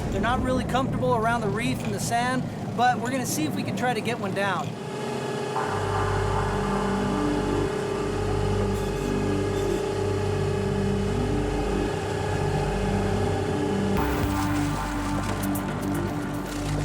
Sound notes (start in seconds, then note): 4.9 boat engine roaring; 4.9 suspenseful music begins